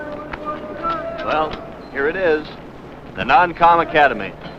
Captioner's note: distant yelling